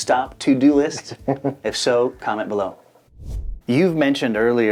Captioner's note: laughs